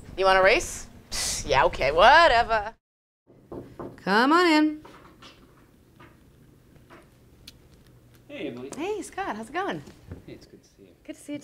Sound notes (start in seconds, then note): 3.3 knocking